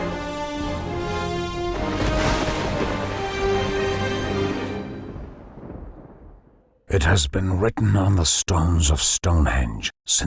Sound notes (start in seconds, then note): 1.8 lightning cracking